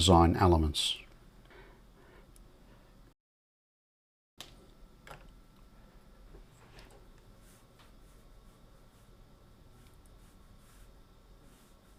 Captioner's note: silence